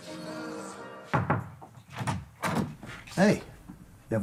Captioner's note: knock